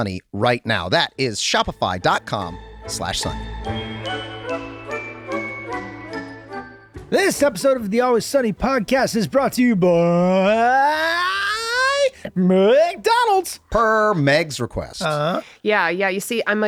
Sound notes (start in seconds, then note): 3.7 upbeat music; 10.2 voice rising in pitch